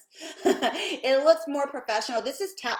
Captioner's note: chuckling